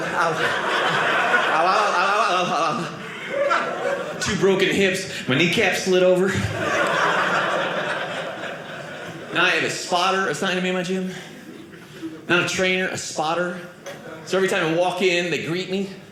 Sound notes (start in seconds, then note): 6.3 audience laughing